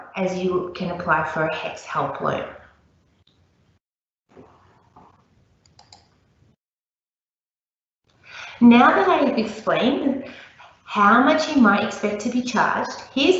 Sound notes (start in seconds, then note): 5.6 mouse clicking